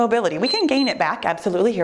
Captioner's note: timer beeps